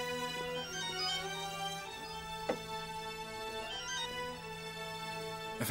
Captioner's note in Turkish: telefon çaliyor